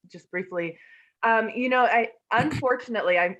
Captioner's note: cough